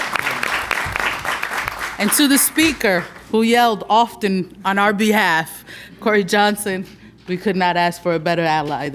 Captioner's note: applause